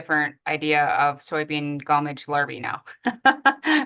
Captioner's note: laughs